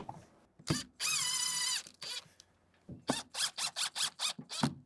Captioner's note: drilling sounds